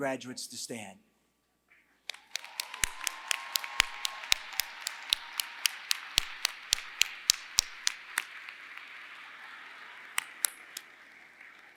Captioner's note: applause